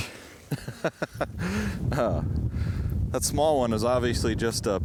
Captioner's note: laughs